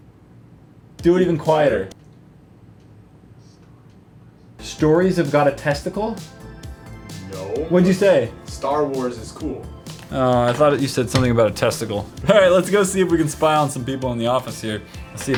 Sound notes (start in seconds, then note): 3.1 whisper